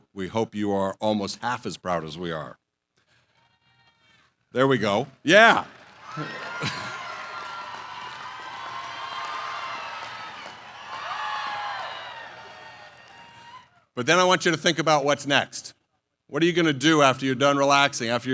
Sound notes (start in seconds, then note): 5.3 cheers